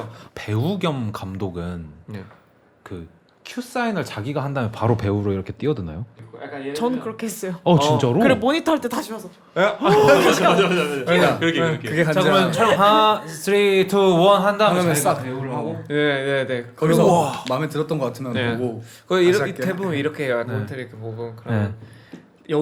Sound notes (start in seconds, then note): 9.3 hurridly